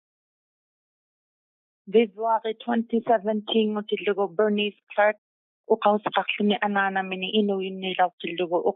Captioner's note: inuit language spoken